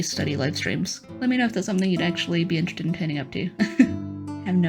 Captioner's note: less pained laugh